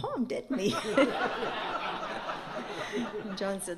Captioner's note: laughter